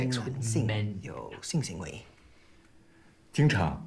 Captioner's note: Calvin speaks in Mandarin; Jian speaking in Mandarin